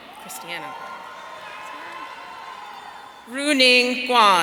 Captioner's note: audience cheering